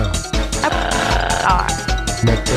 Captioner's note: screams